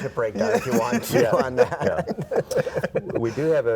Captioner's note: laughs